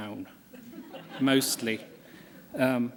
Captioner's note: laughter